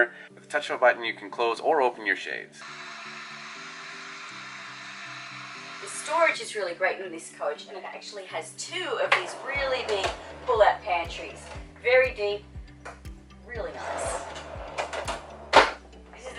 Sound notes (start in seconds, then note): 2.6 mechanical whirring